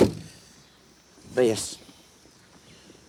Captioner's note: car door thudding